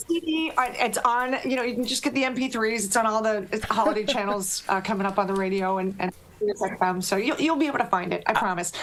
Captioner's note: laughter